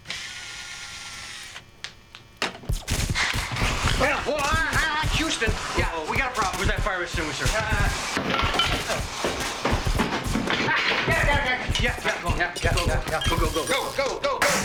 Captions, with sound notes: (electrical crackling) - Well-- ahh-- Houston, yeah, we got a problem! - Where's that fire extinguisher? - Uh... (tools clanking) - Ah, got it, got it, got it! Yeah, yeah, yeah, yeah... - Go, go, go, go, go, go. - Go, go, go, go!